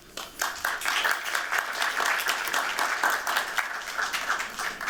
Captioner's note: applause